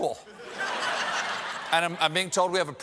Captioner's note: laughter